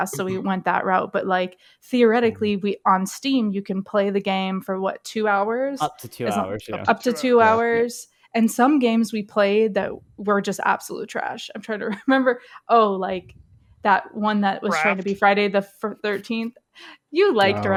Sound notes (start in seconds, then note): 12.3 laughs